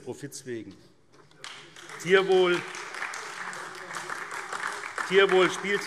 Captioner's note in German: Beifall SPD und DIE LINKE